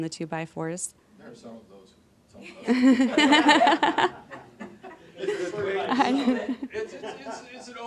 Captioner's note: audience laughing